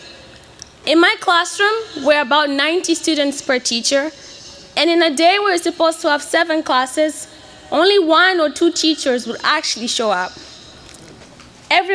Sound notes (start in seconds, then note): none